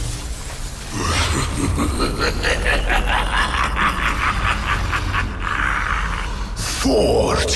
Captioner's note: evil laugh